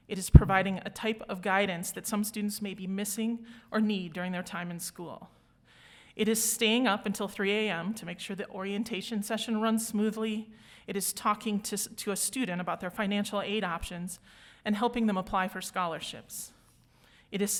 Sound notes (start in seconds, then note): none